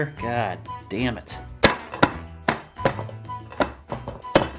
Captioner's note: banging; more banging